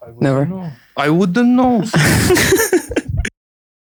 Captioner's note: laughs